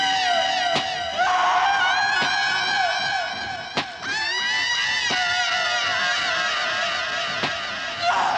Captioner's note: screaming continues, echoing